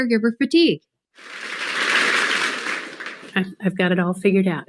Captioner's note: audience claps